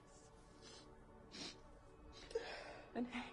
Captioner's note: sniffling